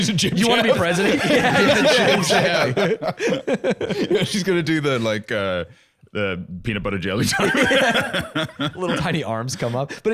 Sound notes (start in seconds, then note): 3.1 all laughing